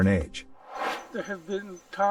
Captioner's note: air swooshes